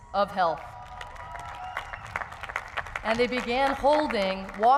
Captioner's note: crowd cheers